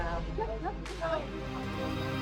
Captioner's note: cheering